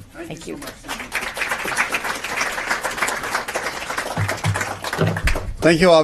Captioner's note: applause